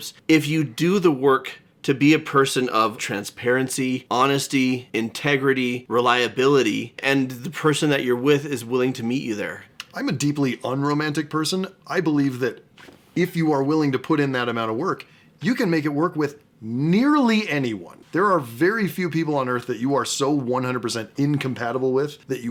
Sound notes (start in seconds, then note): none